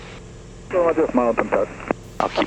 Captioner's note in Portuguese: rádio